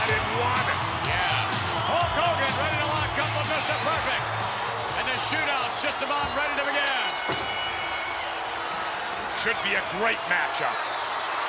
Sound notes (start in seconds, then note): 6.6 bell dings